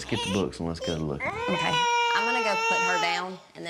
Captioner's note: starts crying